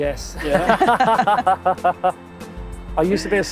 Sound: both laugh

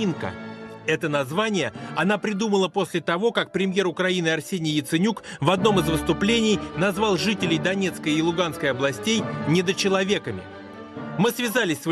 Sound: Ukrainian

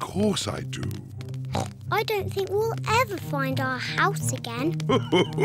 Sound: oinks; daddy pig chuckles

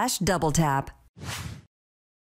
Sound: whoosh

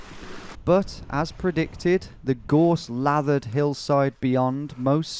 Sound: voiceover

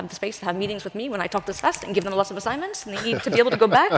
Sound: laughing

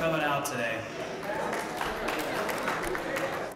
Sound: applause

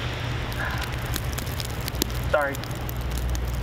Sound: exhaling

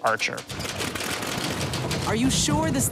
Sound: plane propellers whirring

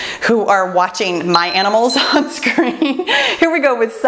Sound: timer beeps

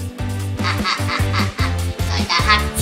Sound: laughing

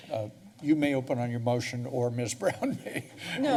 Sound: laughs

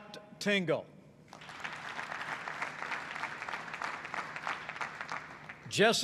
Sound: applause

